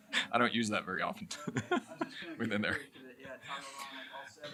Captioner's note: chuckles